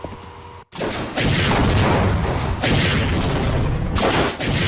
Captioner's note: shots firing